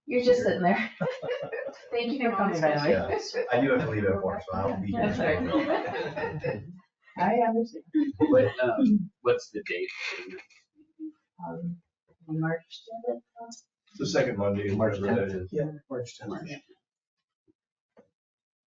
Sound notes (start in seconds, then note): 0.2 people chuckling; 5.5 people chuckling and chattering